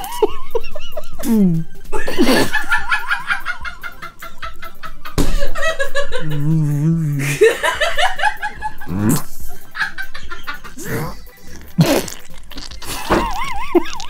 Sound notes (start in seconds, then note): 0.1 laughing; 6.7 laughing; 8.8 gagging; 12.8 both laughing